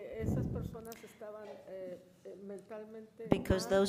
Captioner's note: woman speaks in foreign language